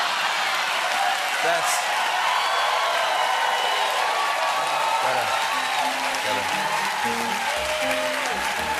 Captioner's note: cheers and applause